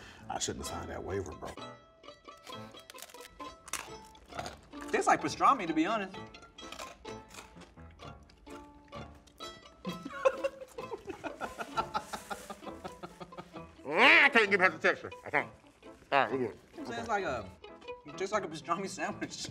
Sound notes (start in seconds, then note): 2.3 bread crunching; 9.8 laughs